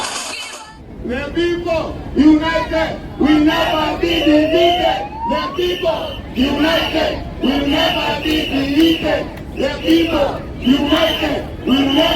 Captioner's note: chant